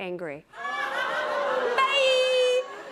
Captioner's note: audience groans, laughter